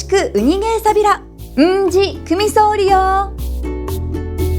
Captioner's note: in Okinawan